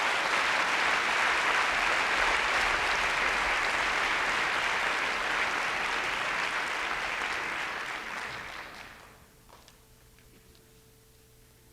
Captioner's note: applause